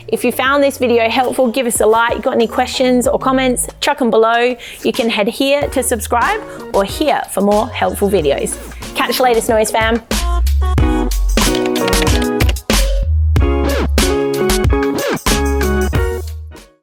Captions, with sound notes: If you found this video helpful give us a like. Got any questions or comments, chuck 'em below. You can head here to subscribe or here for more helpful videos. Catch you later Snowys fam. (upbeat music) (typing)